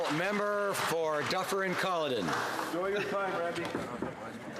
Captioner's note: some Applause